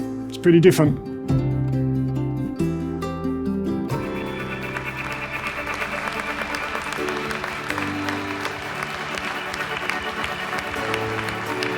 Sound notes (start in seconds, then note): 2.6 uplifting music; 4.0 clapping